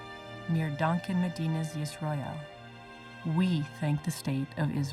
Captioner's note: speaking foreign language